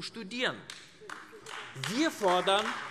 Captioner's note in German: Beifall AfD